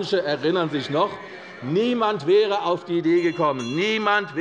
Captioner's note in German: Unruhe - Glockenzeichen des Präsidenten